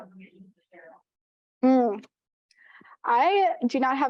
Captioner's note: audio blurs